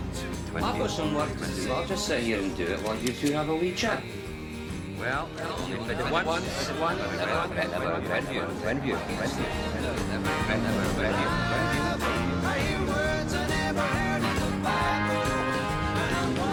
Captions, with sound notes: I've got some work to do. I'll just sit here and do it while you two have a wee chat. (ECHOING) Well, you're only fitted once, and you'll never regret Twinview.